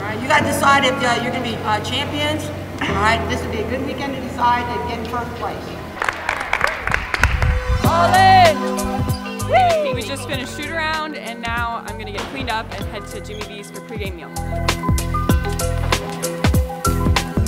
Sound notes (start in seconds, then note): 5.9 team clapping; 14.7 upbeat music